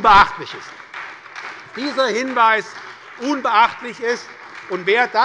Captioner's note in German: Beifall bei der SPD und der FDP